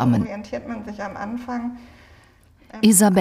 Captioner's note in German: Leise Gesprächsfetzen